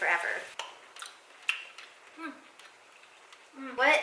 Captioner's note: chewing